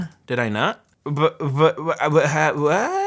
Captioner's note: stammers